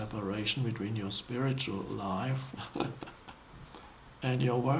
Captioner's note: laughs